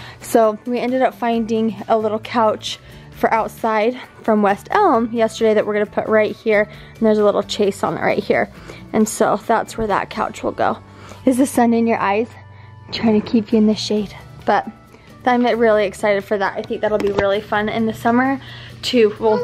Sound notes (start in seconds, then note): 14.6 stammers